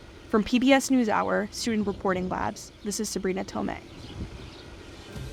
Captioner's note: voice-over